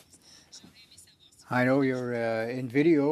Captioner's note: speaking French